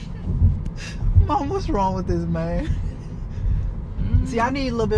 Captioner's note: laughs